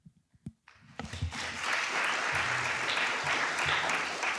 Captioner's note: applause